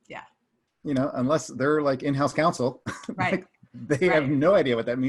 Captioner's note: laughs lightly